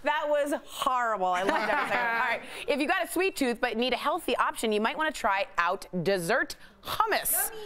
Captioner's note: laughter